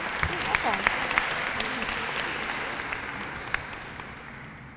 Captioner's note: applause